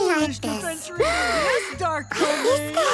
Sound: gasping

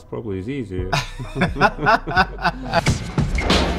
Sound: laughing; percussion music

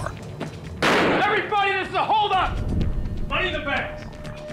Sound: gunshot

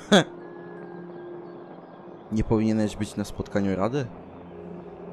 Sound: laughs

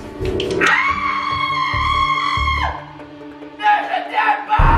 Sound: screaming

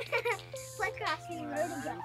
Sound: laughing

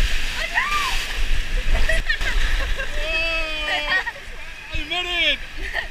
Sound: water Splashing

